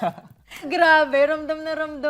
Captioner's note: laughter